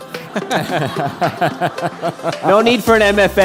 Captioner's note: laughter